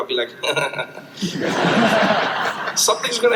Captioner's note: crowd laughs